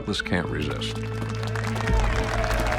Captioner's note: applause